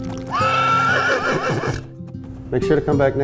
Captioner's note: horse galloping and neighing